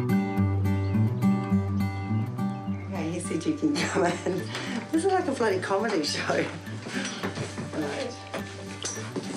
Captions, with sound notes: K, he said you can (CHUCKLES) come in. This is like a bloody comedy show.